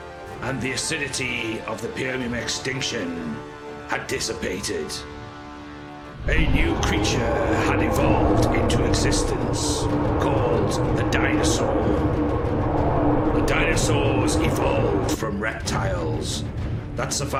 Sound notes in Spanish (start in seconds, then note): 5.3 Rugido de animales; 11.5 Rugido de dinosaurio